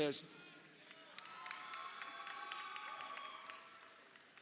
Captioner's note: crowd cheering